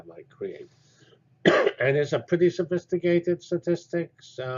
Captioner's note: cough